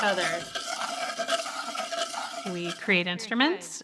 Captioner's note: bowls buzzing